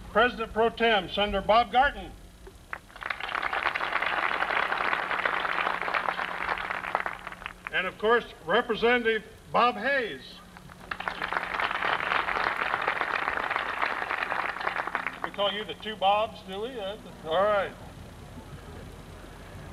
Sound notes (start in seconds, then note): 2.7 applause; 10.6 applause